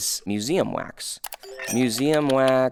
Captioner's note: computer keys clicking; chime ringing